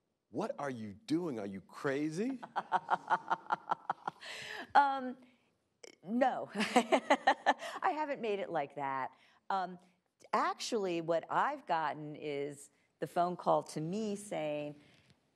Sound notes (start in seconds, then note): 2.2 laughing; 6.6 laughing